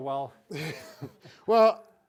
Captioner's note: both laughing